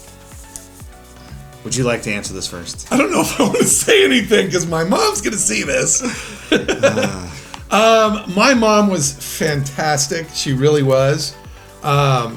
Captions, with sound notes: - Would you like to answer this first? - I don't know if I wanna say anything 'cause my mom's gonna see this. (laughs) - Ah. - My mom was fantastic. She really was.